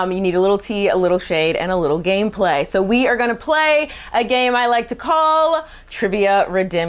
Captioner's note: none